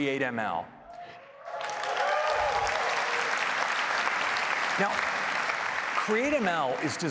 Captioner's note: applause